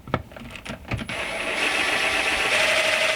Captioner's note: drilling